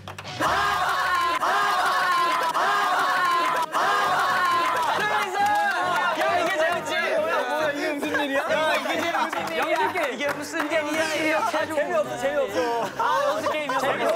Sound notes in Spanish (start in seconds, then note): 1.1 Jajajaja; 3.7 El equipo amarillo se ríe a carcajadas